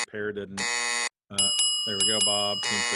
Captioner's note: buzzer ringing; bell dinging; buzzer ringing